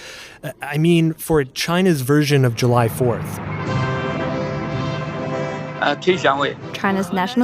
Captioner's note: speaking Mandarin